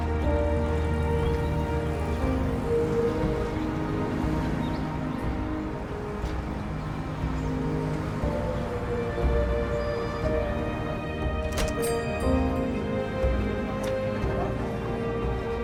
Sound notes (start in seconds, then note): 11.8 bell jingles